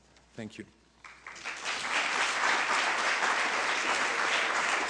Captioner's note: applause